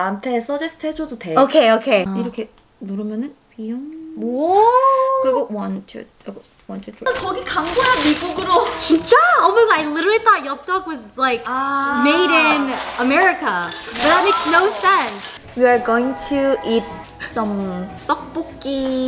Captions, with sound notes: - Okay, okay. - (speaking in foreign language) One, two, one, two, three. (speaking in foreign language) Almost like literally thought (speaking in foreign language) was like made in America. But that makes no sense. - We're going to eat some (speaking in foreign language).